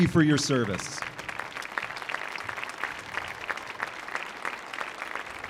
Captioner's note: audience applauding